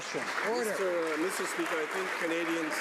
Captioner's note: some Applause